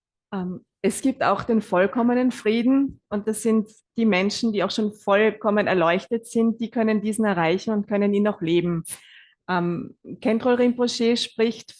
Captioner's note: German live translation